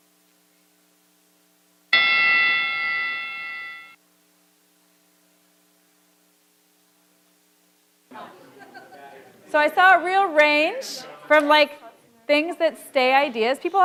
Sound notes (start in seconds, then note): 1.9 bell rings; 8.1 audience chattering softly